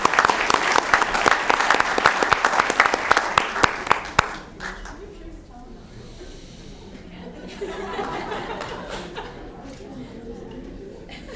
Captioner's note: applause